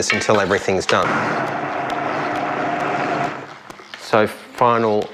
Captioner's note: whirring